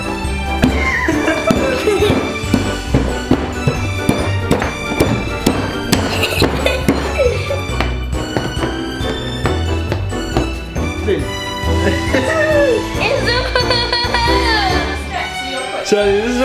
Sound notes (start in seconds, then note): 0.6 boys laughing; 4.0 bright music; 13.3 laughing